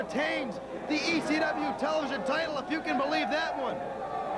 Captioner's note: crowd chattering